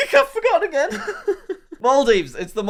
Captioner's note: laughs